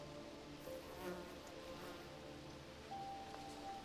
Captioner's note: leaves rustling; fly buzzing